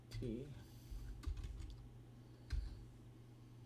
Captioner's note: typing